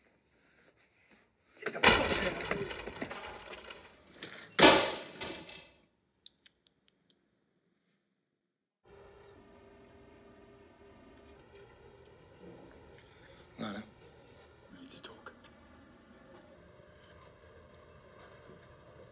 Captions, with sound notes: (door crashes and slams) (Yogi tisking) Lana, we need to talk.